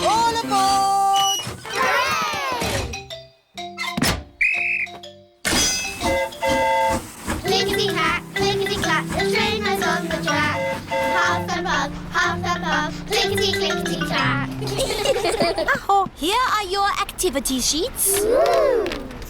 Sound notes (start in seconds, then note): 4.4 blows whistle; 4.4 train horn toots; 14.5 all giggle